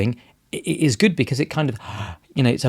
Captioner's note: sighs